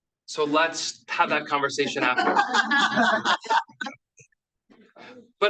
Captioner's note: laughs